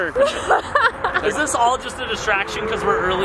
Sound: laughing

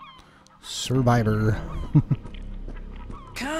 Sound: chuckle

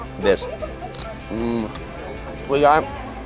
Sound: crunching

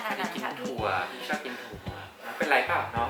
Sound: struggle breathing

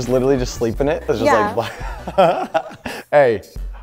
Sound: laughter

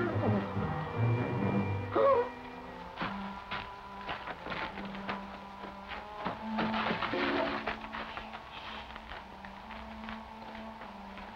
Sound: gasps

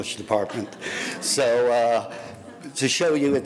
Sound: audience laughing

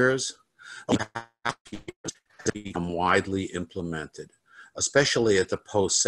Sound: crackling drowns out

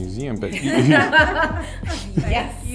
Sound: laughing

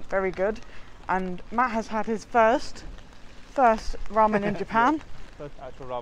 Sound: laughs

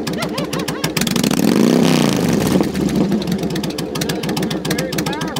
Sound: motorcycle revs and roars

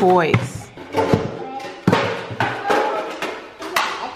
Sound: clatter

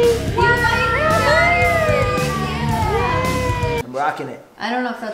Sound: overlapping cheers

